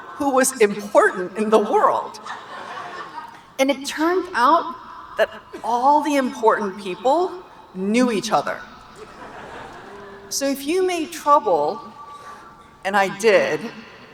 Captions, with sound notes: who was important in the world. (audience laughing) And it turned out that all the important people knew each other. (audience laughing) So if you made trouble, and I did,